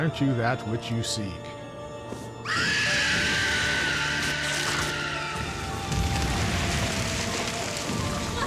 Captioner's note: screaming